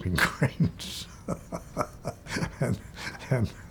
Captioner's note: laughs